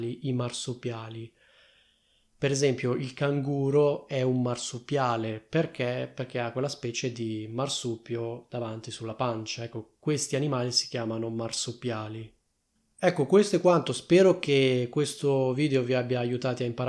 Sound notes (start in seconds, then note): 10.1 in Italian